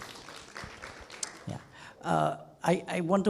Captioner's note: clapping